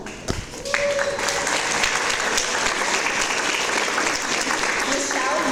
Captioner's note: audience applause